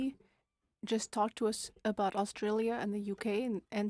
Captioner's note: speaking French